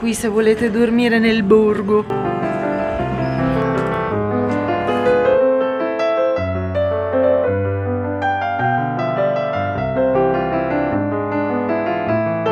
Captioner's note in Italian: Applauso